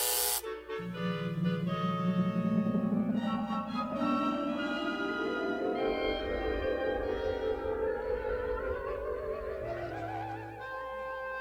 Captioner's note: bzzzt!; weird sound effects